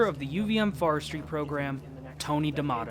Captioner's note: none